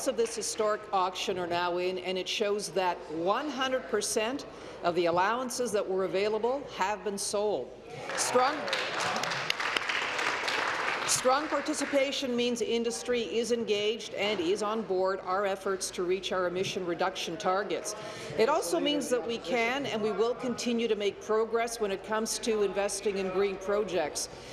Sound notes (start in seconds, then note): 11.5 applause